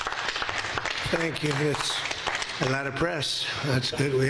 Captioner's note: applause